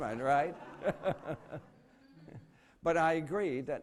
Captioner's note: laughter